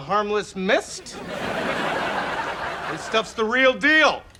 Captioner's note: laughs